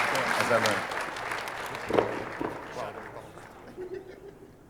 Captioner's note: audience applauding